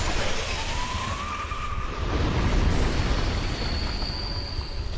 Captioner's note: monster screeches